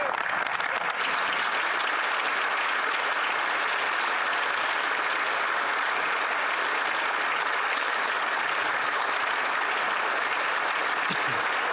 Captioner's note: some Applause